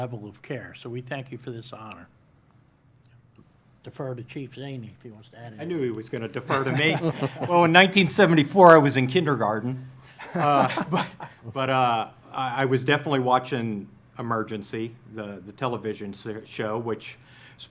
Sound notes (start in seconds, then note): 10.2 laughter